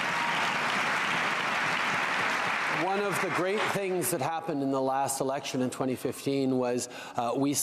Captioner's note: cheering and Applause